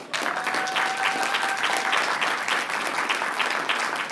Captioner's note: applause